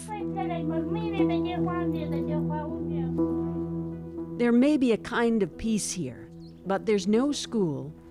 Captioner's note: speaking Foreign Language